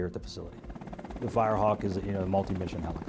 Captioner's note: helicopter blades whirring